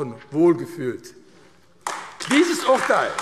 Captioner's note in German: Beifall AfD